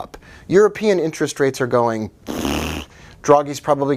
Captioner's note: blowing a raspberry